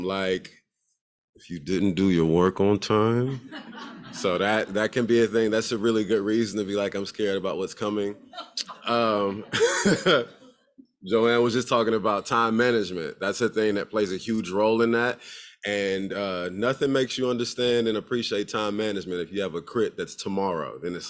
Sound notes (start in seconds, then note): 3.3 crowd laughs; 8.2 laughs